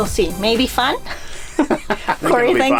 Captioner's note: laughing